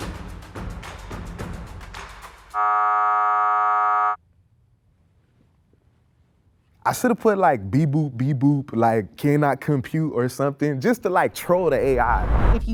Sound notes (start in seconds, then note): 2.5 buzzer sounding